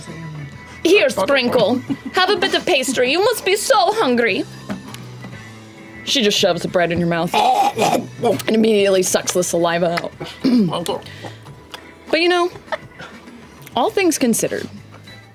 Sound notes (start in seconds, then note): 7.0 chokes